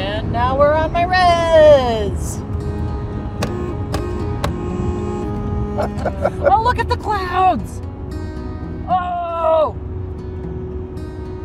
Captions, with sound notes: - And now we're on my res. (honks) (soft music) Oh, look at the clouds! Oh!